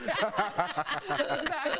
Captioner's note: laughter